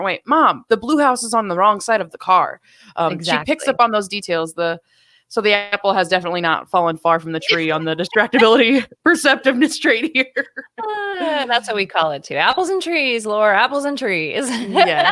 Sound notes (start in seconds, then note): 10.3 laughing